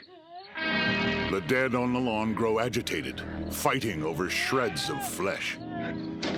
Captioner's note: creatures moaning